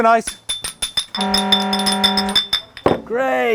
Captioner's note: horn sounds